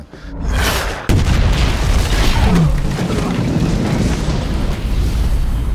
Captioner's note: rocket whooshing; rocket exploding